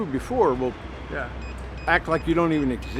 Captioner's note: alert beeping